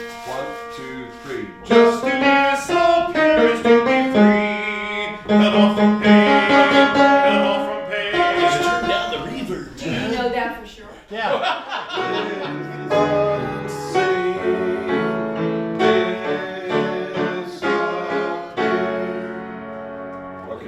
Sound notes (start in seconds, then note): 2.2 singing; 11.9 laughing; 14.0 singing